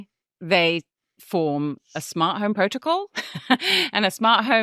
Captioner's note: chuckles